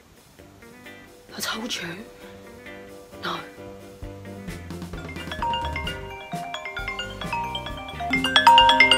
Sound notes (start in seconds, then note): 4.9 phone ringing